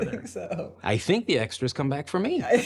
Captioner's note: laughs